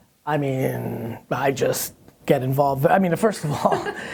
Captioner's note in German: Lacht